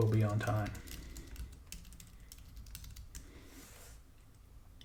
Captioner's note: typing